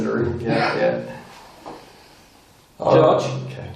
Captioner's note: laughing